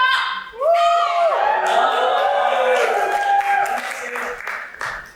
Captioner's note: audience cheers